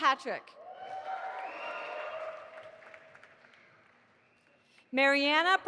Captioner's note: audience applauding